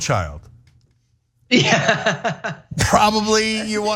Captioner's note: laugh